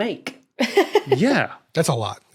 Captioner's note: laughs